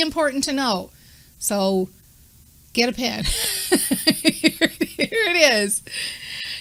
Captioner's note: laughing